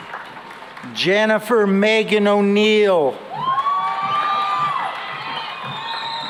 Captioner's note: cheering and applause